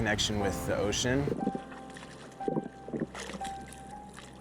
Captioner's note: water flowing